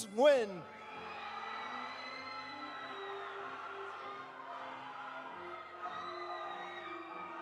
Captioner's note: audience cheering; audience applauding